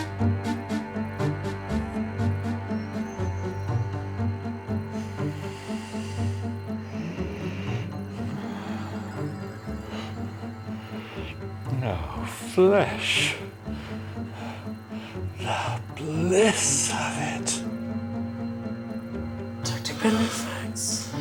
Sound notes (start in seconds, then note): 0.1 tense music; 4.9 breaths heavily